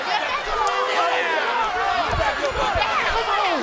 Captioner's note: crowd chatter